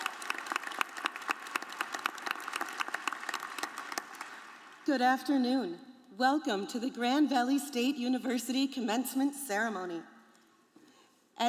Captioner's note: applause